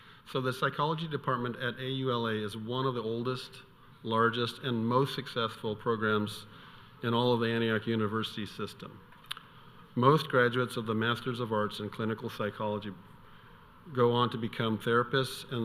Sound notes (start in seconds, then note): none